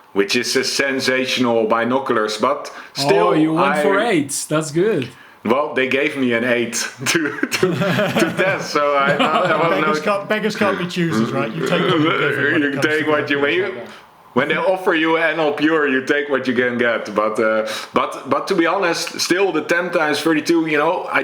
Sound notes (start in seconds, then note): 7.0 chuckles; 7.0 laughs